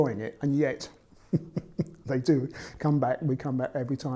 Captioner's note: laughs